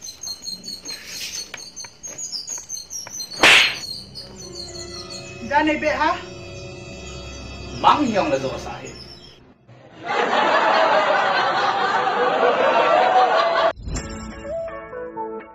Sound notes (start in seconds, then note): 3.3 hard slapping sound